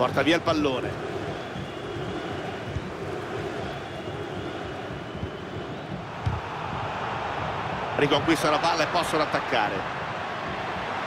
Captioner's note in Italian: Applauso